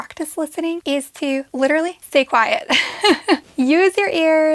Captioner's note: giggles